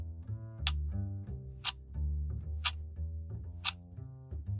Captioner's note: clock ticking